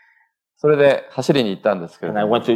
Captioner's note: speaking japanese